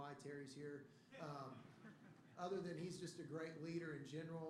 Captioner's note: laughter